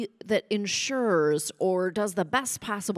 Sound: none

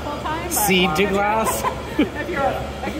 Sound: laughter

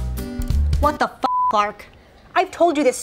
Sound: beep

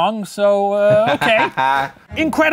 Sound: laughing

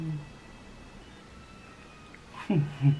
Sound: mmm

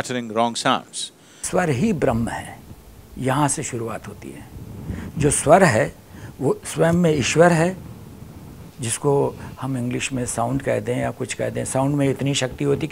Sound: speaks in Hindi – not transcribed

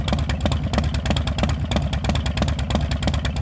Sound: engine idles

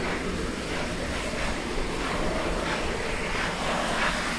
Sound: safety valves hissing, chugging

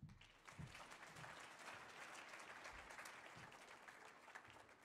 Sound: audience applauding

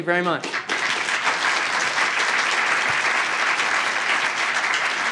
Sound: applause

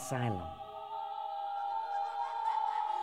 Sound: screaming

